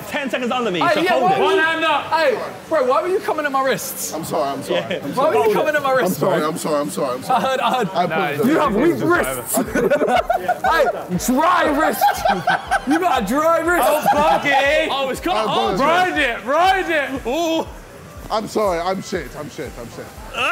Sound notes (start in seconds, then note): 9.6 laughing